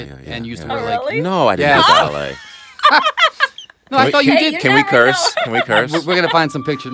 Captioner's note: laughter